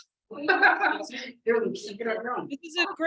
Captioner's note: laughter